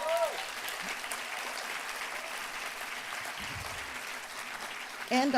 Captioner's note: applause